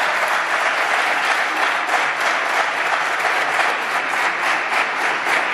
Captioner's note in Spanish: Aplausos